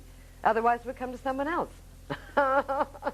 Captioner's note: laughing